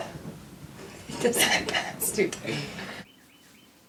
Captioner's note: chuckles